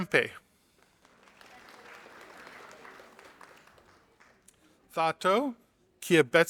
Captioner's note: audience applauding